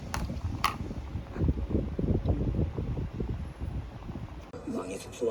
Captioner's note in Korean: feat.선풍기소리